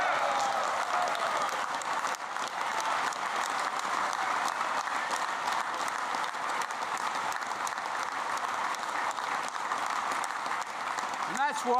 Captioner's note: applause